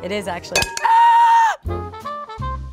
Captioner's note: clanging; yells; jazzy music